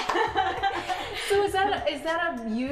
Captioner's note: both laughing